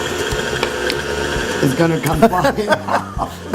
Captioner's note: laughing